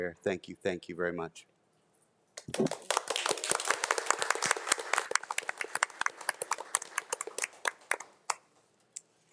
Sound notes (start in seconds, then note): 2.4 board of trustees and attendees applauding